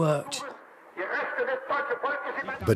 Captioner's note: broadcast in German plays over the radio